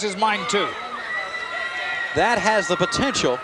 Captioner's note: attendees cheering